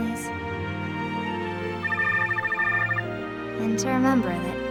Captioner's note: phone ringing